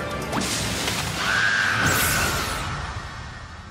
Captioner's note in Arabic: صراخ